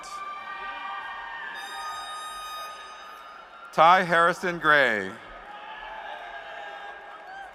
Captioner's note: cheers and applause